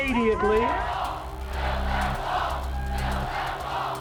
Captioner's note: chanting